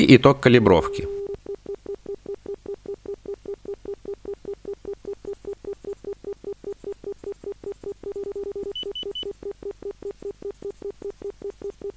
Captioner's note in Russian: Звучат записанные на кассету сигналы генератора